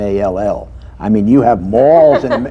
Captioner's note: laughter